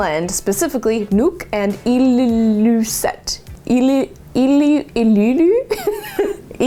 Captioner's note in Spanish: risas